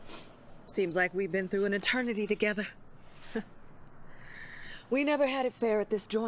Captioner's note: laughs